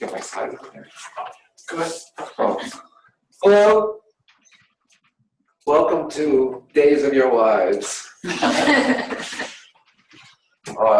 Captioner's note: laughter